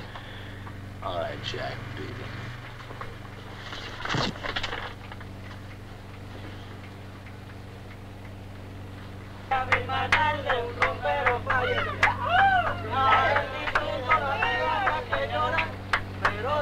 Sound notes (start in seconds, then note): 8.4 men singing in Spanish; 9.5 men clapping and cheering